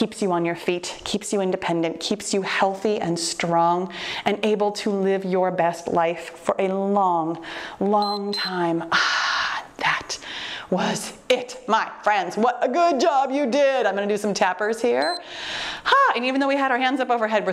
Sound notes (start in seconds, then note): 8.0 timer beeps; 15.0 timer beeps